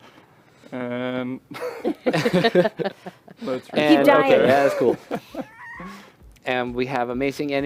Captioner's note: laughter